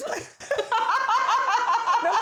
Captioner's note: both laughing